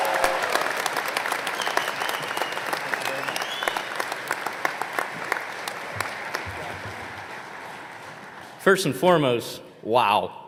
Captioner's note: applause